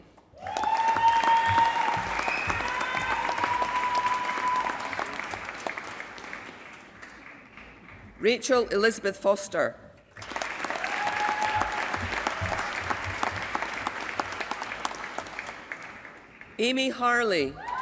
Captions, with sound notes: [APPLAUSE] Rachel Elizabeth Foster. [APPLAUSE] Amy Harley.